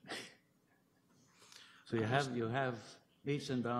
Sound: chuckles

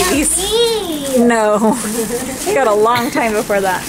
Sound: cashier laughs

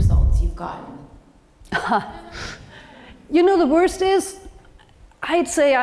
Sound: laugh

